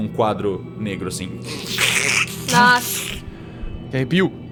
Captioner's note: scratch